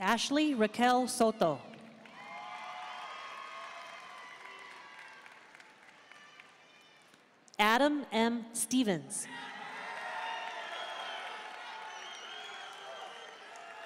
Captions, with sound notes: Ashley Raquel Soto. (audience cheering and applauding) Adam M. Stephens. (audience cheering and applauding)